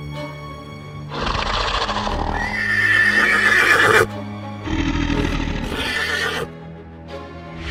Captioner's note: eerie music playing; low growling; horse neighing